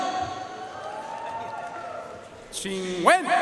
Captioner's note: audience cheering and applauding